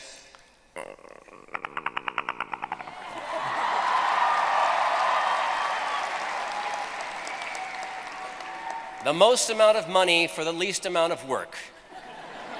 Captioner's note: Perry the Platypus sound; cheers